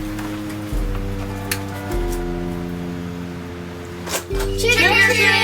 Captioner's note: doorbell ringing